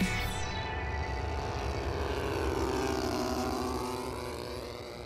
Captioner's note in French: bruit de moteur à hélice